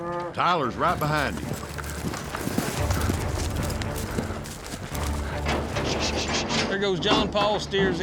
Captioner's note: hoofbeats